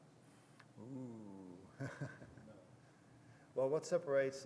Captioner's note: laughs